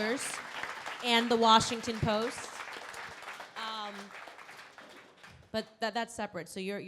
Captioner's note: crowd applauding